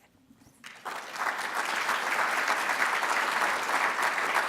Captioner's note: audience applauds